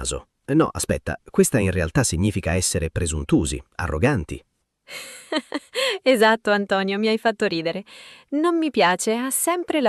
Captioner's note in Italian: risate